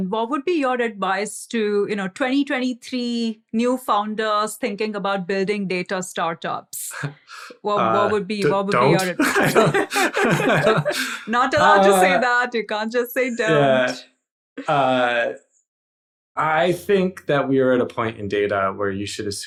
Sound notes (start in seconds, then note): 7.7 laughs